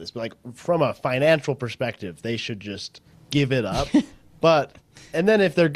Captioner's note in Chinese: 笑声